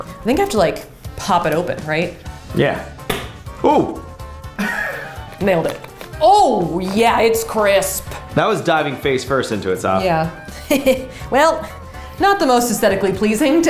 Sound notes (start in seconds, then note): 3.1 plastic pops; 4.6 laughs; 10.5 laughs